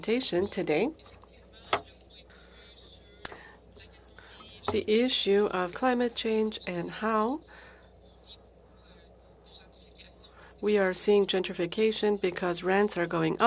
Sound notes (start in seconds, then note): 5.1 speaking FRENCH